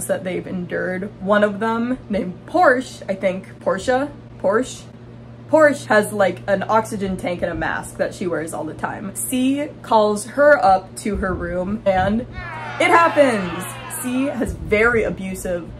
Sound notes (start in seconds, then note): 3.1 struggling with pronunciation; 12.3 booing